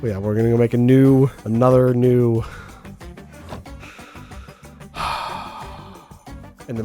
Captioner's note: sigh